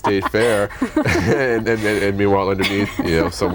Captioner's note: laughter